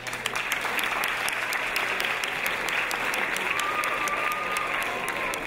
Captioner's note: audience cheering